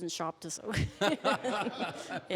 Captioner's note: all laughing